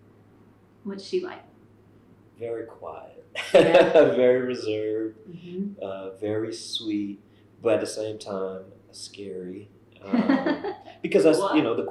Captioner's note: laughter